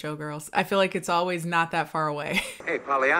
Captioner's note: laughs